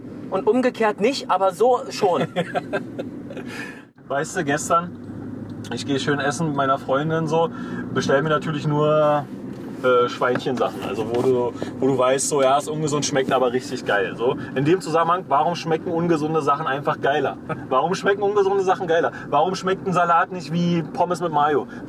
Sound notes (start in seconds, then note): 2.1 laughs